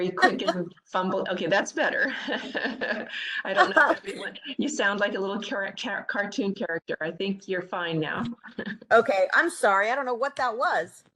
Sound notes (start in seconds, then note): 1.9 laughter